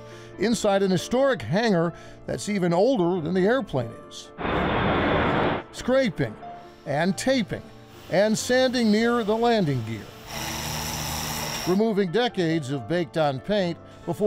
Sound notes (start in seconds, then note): 4.4 plane rumbling; 10.0 tool whirring